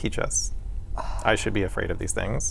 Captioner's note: sighs